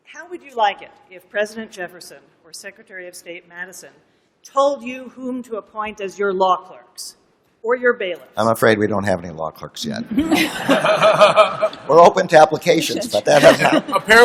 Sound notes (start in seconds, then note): 10.1 laughter